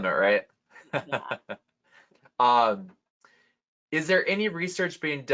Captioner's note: laughs